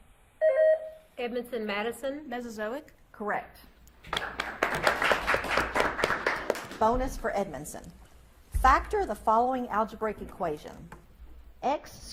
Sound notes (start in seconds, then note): 0.4 buzzer beeps; 4.0 audience claps